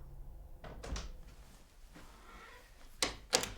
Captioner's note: opening door